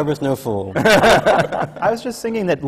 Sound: laughter

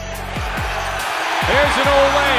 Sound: crowd cheering

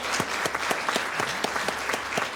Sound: applause

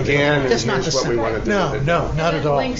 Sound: many speaking

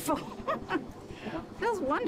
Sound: chuckling

